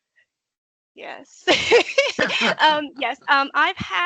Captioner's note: laughing